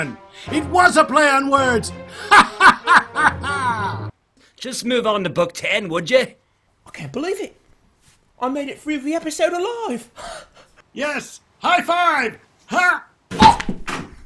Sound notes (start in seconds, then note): 2.1 odysseus laughing